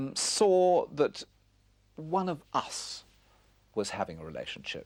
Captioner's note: none